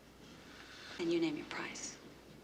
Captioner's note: breathes sharply